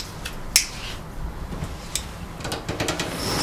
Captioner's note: lighter sound